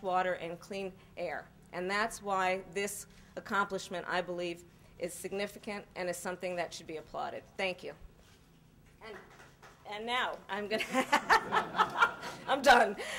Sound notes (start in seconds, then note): 10.7 laughter